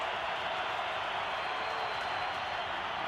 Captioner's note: crowd cheering